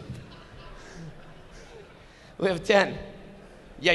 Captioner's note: audience laughing